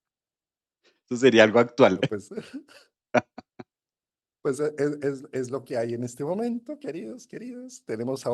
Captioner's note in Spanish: risas